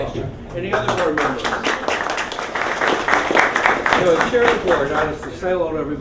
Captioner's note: applause